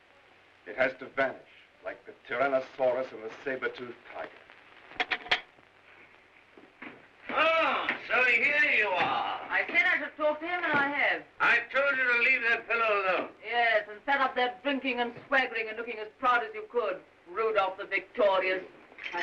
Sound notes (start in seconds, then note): 4.9 door opens